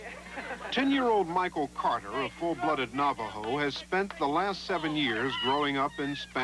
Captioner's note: fans cheering